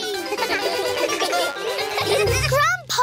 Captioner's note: all giggle